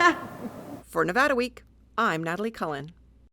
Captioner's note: laughter